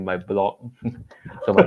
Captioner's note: laughter